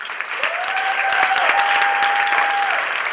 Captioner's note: applause